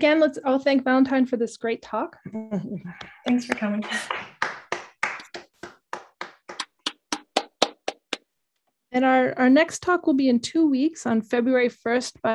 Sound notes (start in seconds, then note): 3.4 applause